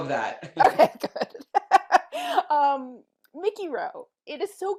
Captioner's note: laughs